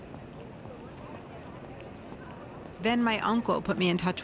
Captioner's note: people chattering